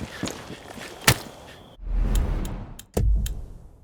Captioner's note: gun firing